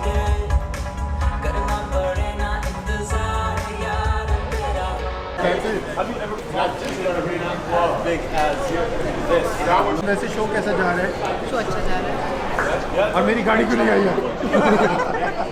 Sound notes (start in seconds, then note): 5.4 people chattering; 14.1 laughs